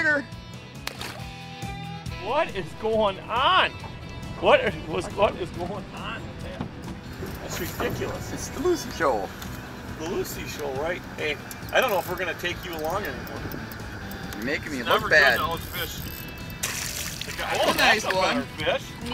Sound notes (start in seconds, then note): 0.8 water splashing; 16.5 water splashing